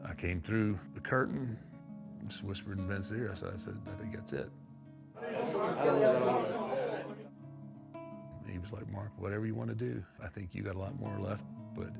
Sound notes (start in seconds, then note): 5.2 crowd chattering; 5.8 gentle guitar music